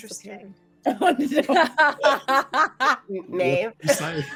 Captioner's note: all laughing